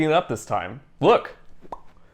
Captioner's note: popping sound